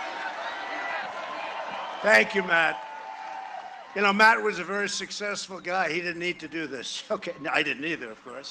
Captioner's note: cheering and applause